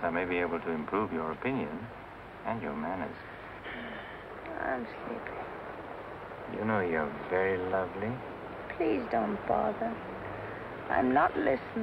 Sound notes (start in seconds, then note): 3.5 sighs